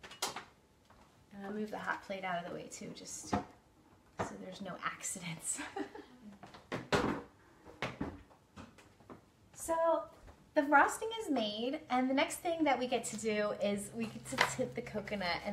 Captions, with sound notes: And I'll move the hot plate out of the way too just so there's no accidents. (laughs) So the frosting is made. And the next thing that we get to do is we can tint the coconut.